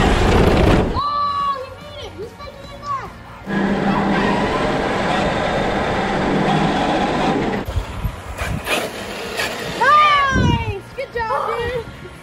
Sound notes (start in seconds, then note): 3.4 engine whining